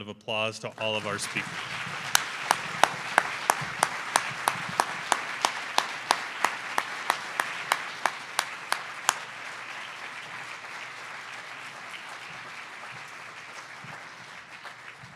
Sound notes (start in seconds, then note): 2.6 audience applause